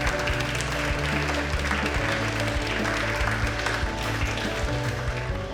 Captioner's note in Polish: oklaski